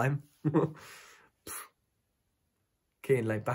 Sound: giggles

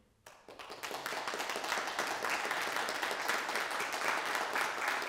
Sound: audience applauding

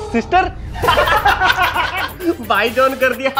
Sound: laughing

